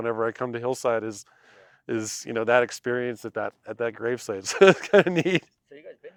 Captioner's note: giggles